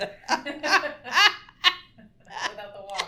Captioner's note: laughs